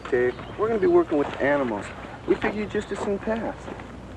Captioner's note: none